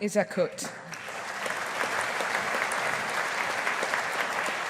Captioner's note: audience applauding